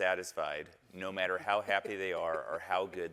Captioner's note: panelists chuckling